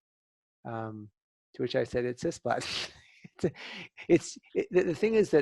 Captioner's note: laughter